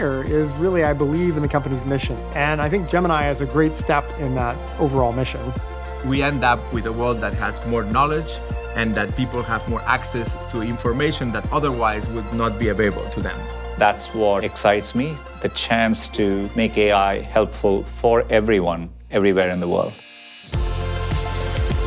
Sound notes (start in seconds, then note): 13.3 voice of Sundar Pichai; 19.5 music becomes more upbeat